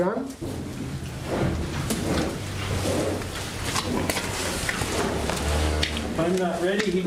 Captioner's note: cattle sounds